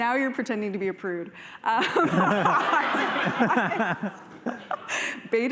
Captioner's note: laughter